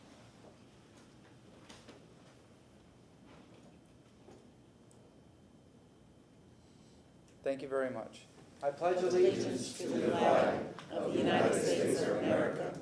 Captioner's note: moment of silence